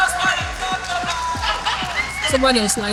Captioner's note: cheering